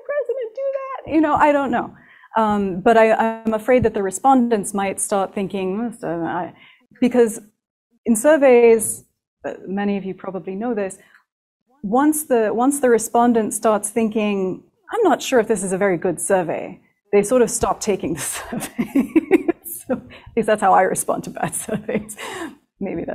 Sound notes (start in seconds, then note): 18.4 laughs